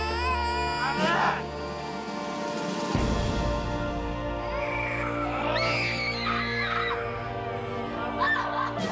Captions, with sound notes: I'M HURT. [screaming] MAMA!